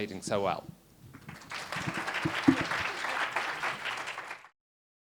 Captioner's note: audience applauds